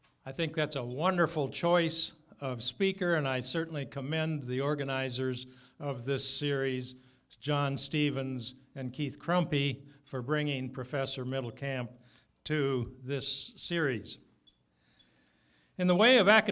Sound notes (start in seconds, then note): none